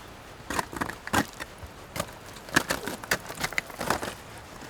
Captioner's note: ice crunching